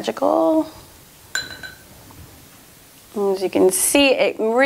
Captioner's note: clattering gently